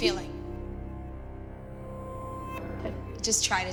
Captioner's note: stammers